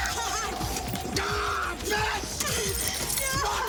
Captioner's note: Graham yells